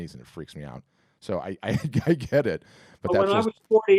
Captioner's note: laughs